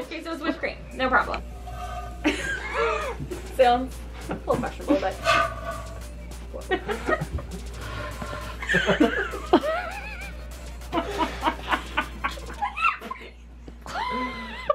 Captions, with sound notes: Okay so it's whipped cream, no problem. Sounds a little questionable but cool. (everyone laughing) I can't breathe.